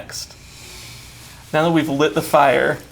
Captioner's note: inhales